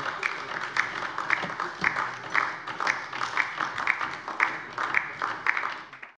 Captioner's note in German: Beifall DIE LINKE